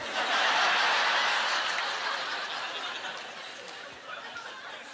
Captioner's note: audience laughter